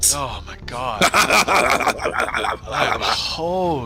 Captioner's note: weird, evil fake laugh